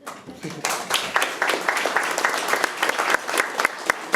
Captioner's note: audience applauding